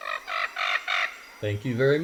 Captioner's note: bird squawks